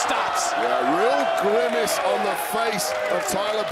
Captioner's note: crowd cheers